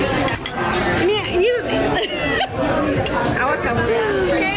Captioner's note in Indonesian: Ketawa